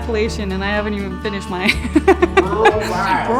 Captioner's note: laughs